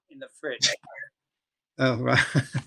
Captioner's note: chuckle